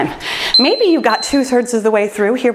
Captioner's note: timer beeps